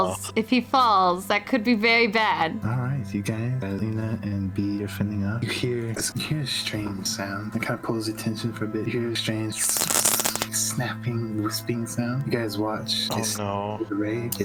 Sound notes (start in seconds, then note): 9.6 shhhshshh